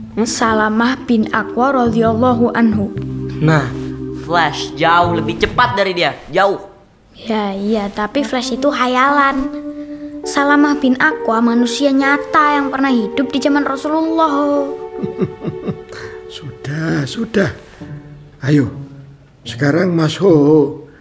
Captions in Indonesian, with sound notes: Salamah Bin Akwa, Radhiyallahu anhu! nah! Flash jauh lebih cepat dari dia! jauh! ya...ya... tapi Flash itu khayalan Salamah bin Akwa manusia nyata yang pernah hidup di zaman Rasulullah Ho.. (Pak Kyai tertawa) sudah...sudah... hayo sekarang Mas Hoho